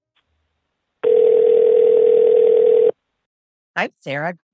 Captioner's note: phone ringing